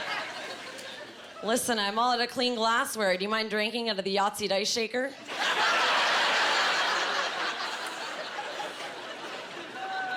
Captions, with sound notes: "Listen, I’m all out of clean glassware. Do you mind drinking out of the Yahtzee dice shaker?" (Laughing)